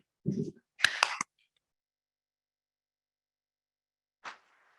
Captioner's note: members clapping